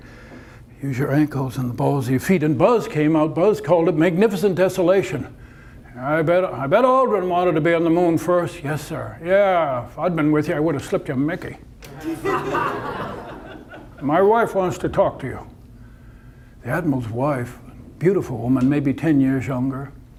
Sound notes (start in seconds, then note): 12.0 audience laughter